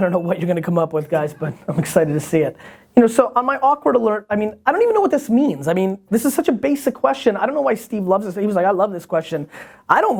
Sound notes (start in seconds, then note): 1.5 laughter